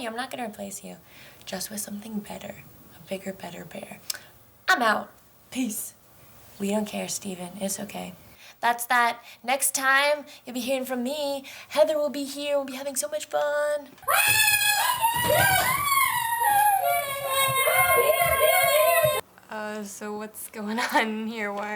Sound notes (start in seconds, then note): 14.0 screams